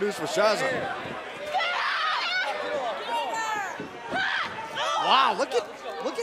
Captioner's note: crowd chatter